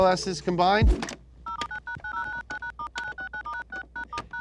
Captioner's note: phone making noise